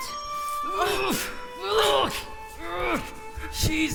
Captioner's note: grunt and groan